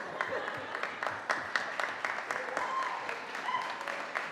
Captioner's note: audience applauding